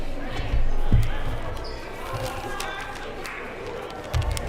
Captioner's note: crowd murmuring